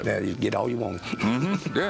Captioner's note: laughs